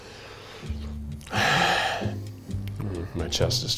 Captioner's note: sighs